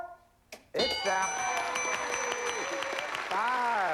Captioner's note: applause